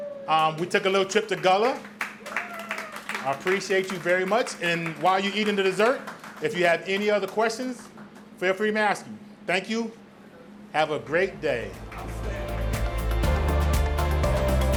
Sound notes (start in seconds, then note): 2.5 audience applauds; 14.5 upbeat music